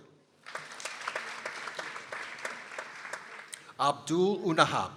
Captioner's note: people applauding